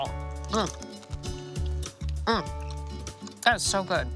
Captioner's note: grunting in satisfaction